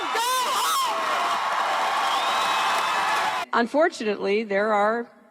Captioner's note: crowd cheering